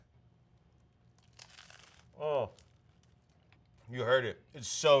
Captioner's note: bread crunching